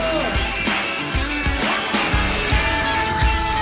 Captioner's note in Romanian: Aplauze